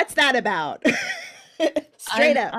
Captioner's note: laughing